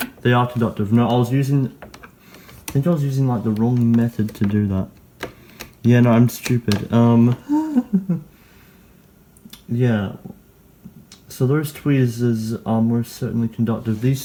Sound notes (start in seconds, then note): 7.4 laughs to herself